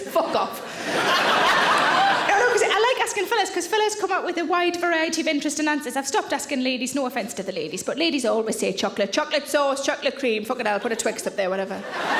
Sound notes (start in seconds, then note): 0.0 audience laughing